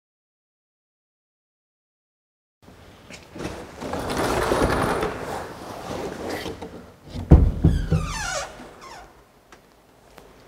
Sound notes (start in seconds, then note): 7.1 door squeaks